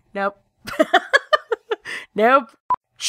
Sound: laughs

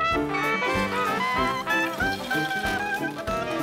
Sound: sizzling

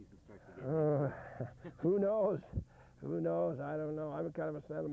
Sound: chuckles

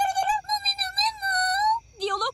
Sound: alien talking

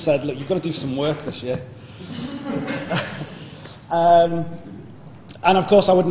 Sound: laughter

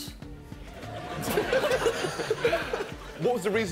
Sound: laughing

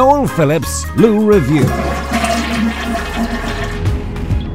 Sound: loo flushes

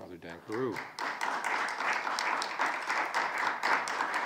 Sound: congregation claps

